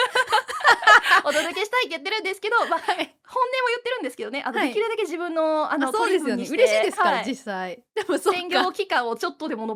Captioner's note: laughs